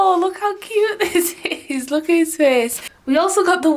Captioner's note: chuckling